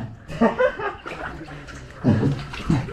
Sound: crazy laugh

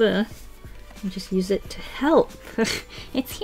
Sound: chuckles

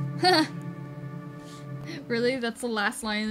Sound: Sabrina laughs

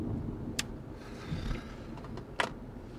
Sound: sigh

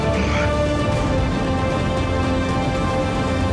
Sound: Scott groans; dramatic music continues

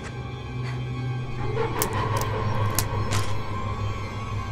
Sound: ominous music; bones crack

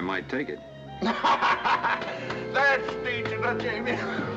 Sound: laughing

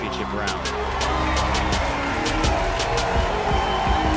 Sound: crowd cheering; triumphant music

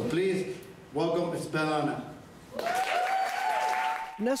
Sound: audience cheering

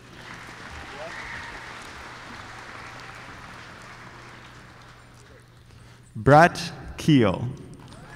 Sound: applause

